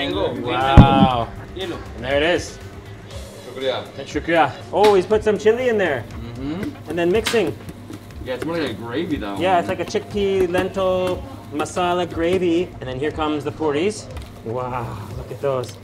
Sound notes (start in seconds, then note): 2.8 speaking in foreign language